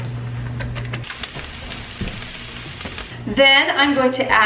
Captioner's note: pan sizzling